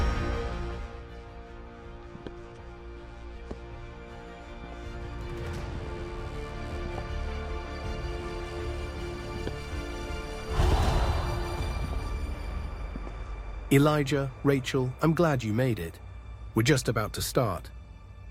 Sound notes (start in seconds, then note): 10.5 air whooshes